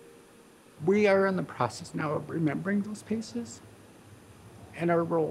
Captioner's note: with much emotion